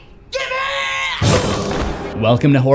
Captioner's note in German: oof